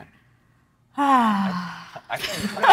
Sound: sighs; everyone laughing

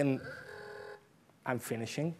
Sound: timer rings

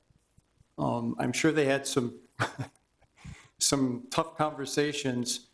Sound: laughs

